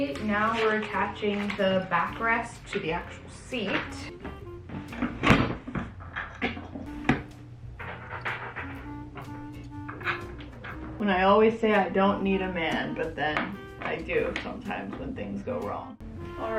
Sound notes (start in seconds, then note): 4.8 seat thuds; 7.2 screws rattling